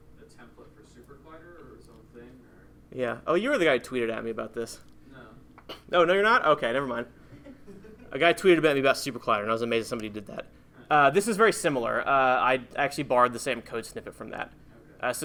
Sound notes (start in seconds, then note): 0.0 voiceover; 5.2 voiceover